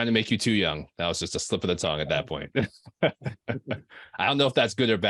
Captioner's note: chuckling